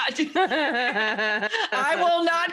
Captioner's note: both laughing